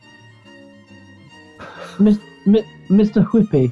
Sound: chuckling

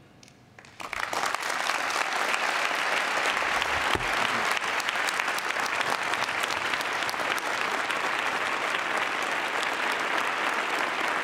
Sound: applause

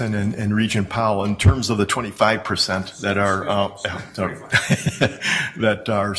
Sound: laughs

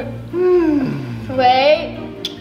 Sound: exhales

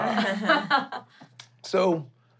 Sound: laughing

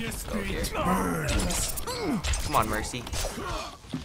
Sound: Mercy grunts; characters grunt

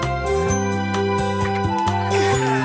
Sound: laughing

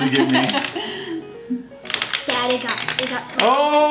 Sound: laughing

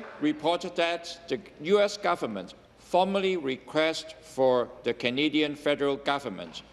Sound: applause

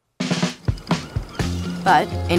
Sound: film projector rolls; upbeat music

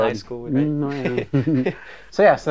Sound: chuckles

